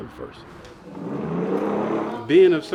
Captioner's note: wheels roaring